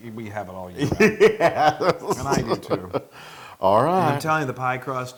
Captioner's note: laugh